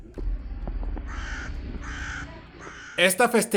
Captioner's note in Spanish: Graznido de un cuervo